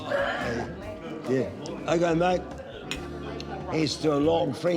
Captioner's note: laughs